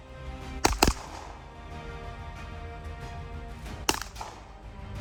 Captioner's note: gunshot; gunshot